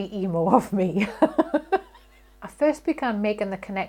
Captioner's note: chuckles